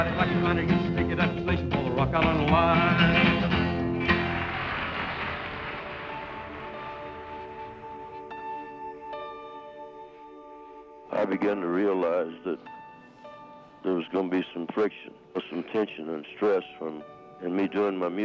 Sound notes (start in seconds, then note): 4.0 audience cheering and applauding